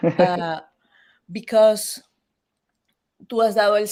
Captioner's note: laughs; speaks Spanish